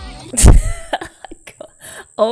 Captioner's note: laughs